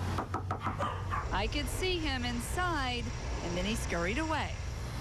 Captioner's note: knocking; dog barking